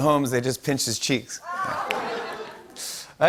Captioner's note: laughter